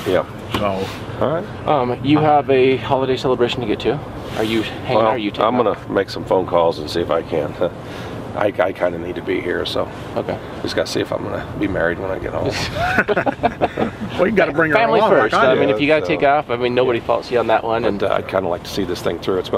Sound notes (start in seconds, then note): 12.4 men laughing